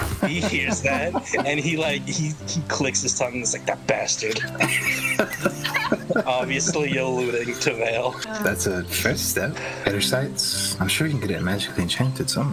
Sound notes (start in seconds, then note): 4.2 laughing